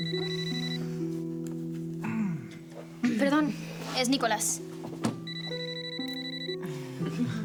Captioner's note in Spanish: Suena el celular